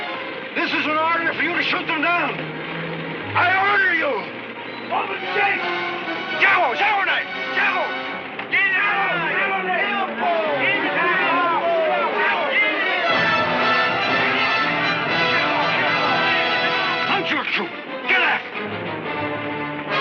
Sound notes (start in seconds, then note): 6.2 Indian speaking in foreign language; 8.3 indians speaking in foreign language; 12.9 thrilling music; 19.7 thrilling music